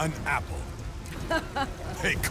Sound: laughs

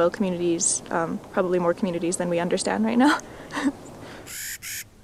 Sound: laugh

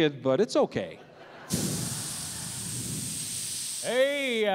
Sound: hissing

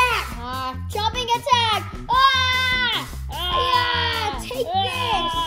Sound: imitates dinosaur noises

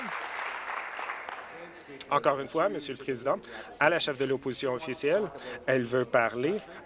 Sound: applause

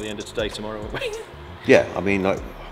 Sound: laughs

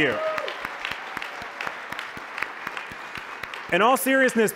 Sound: applause

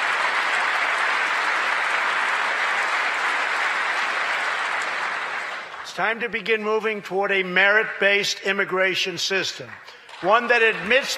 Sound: applause

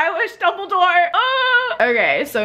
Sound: squeals

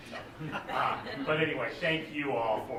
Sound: laughter

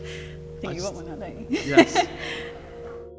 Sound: laughter

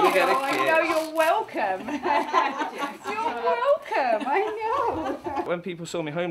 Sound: laughing

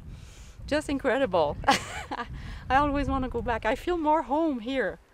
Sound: laughs

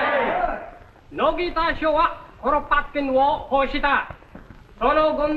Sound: speaking japanese

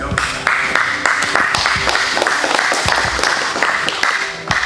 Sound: spectators applauding

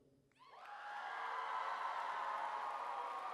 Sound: cheering

